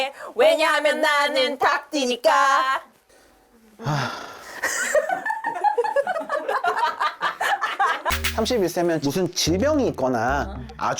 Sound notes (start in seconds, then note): 3.8 adult lets out a deep sigh